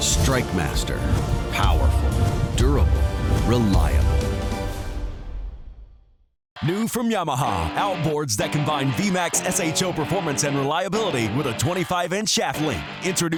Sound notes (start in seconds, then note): 6.8 voiceover